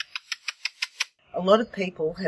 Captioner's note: air-kissing